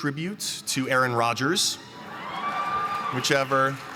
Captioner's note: cheering